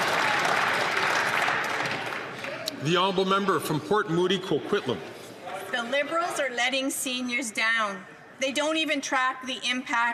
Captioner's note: applause